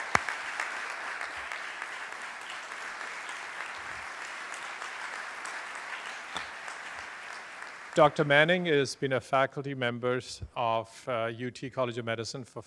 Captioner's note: applause